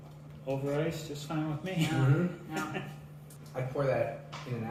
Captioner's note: laughter